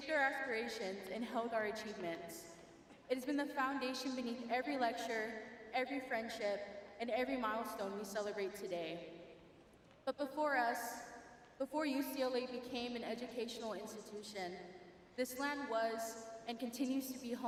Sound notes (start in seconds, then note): none